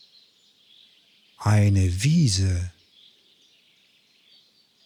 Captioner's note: german